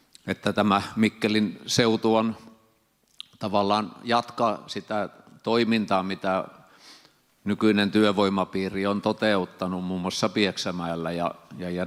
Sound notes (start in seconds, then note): none